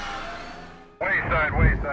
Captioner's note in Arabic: صراخ الجمهور; هدير ثابت